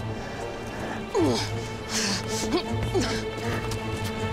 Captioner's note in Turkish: İnleme sesi; Müzik - Gerilim